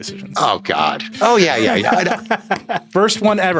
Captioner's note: Nilay laughing